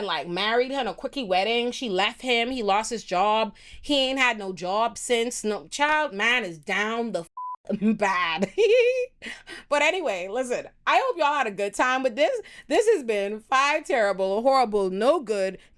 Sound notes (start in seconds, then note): 7.3 beep; 9.4 laughs